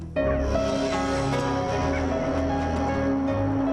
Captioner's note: deer Braying